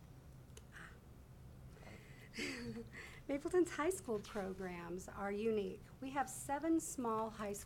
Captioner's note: laughs